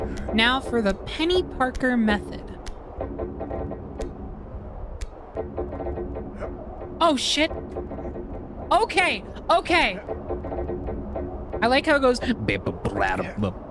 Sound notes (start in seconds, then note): 9.9 metal Beam Creaking; 12.5 imitating Creaking